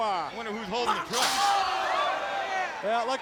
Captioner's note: crowd vocalizing